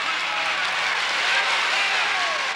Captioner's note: applause